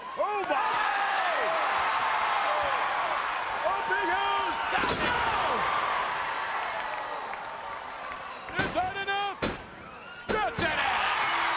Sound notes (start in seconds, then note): 1.5 crowd cheers; 5.9 crowd cheers